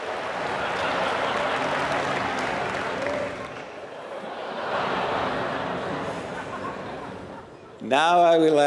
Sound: applause; laugh

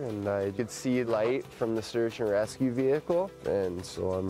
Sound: voiceover

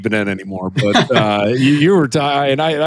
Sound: laughs

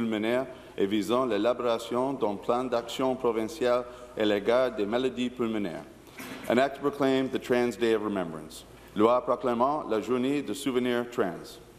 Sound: speaking in French

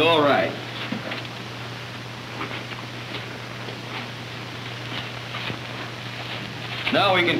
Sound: footsteps

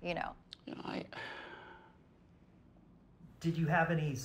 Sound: sighs

